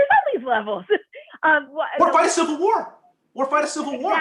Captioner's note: laughter